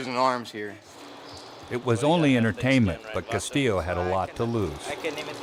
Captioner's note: voiceover